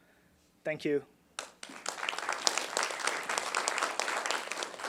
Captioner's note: applause